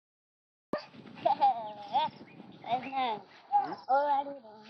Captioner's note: lamenting